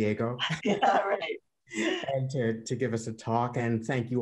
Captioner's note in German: laughter